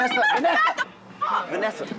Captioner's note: shouting